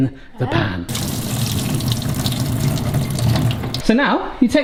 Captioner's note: water glugging